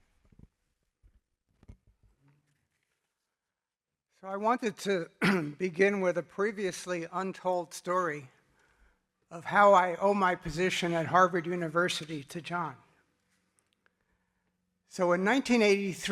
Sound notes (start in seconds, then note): 5.1 cough